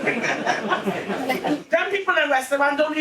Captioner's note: audience laughing